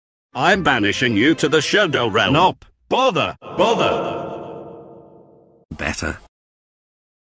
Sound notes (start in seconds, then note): 3.2 echoes